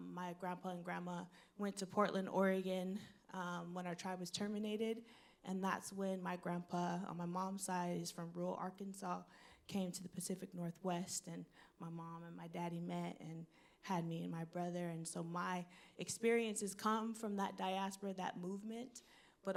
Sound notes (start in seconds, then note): none